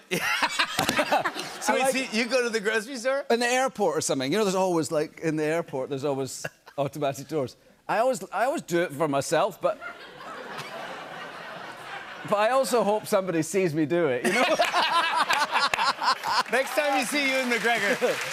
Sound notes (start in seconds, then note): 0.1 laughs; 9.7 laughter; 14.2 laughter and applause